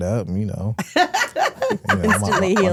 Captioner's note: Stephanie laughing